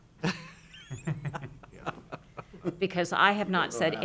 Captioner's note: laughs